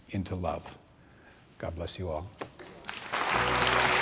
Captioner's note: clapping